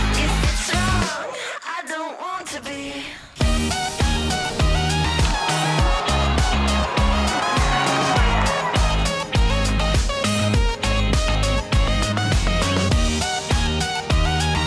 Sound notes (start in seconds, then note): 5.3 audience cheering